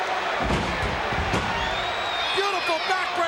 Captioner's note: body thuds